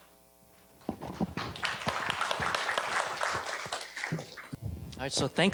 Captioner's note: applause